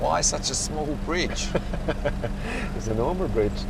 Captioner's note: laughs